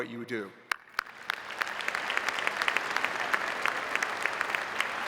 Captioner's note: audience applauding